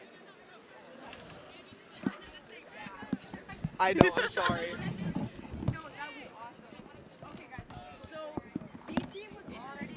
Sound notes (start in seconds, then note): 3.3 chatter